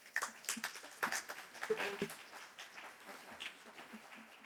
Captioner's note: applause